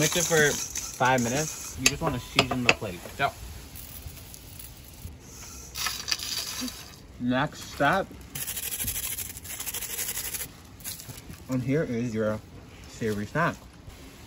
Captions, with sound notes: - You'll mix it for five minutes. You just wanna season the plate. - Yep. (chips drop) - The next step. (chips shred) And here is your savory snack.